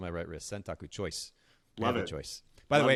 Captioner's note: speaking in foreign language